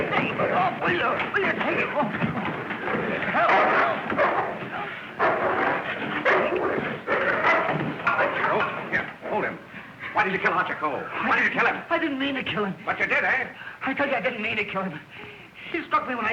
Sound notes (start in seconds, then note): 3.4 barking, growling